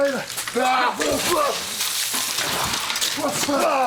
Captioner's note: Booker groans